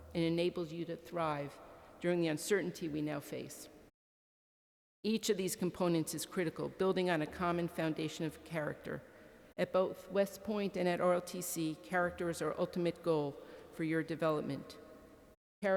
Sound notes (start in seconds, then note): none